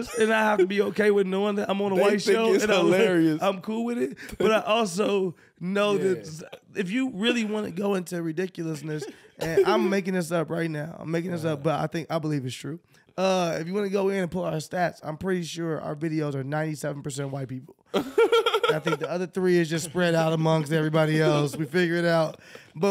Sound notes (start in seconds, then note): 4.0 chuckles; 18.0 laughing